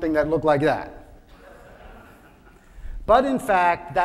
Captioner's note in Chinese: 眾笑